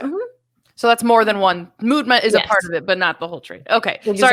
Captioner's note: mutters